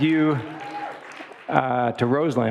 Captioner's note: audience applauding and cheering